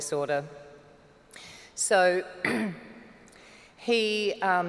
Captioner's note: clears throat